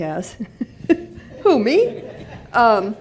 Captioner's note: laughter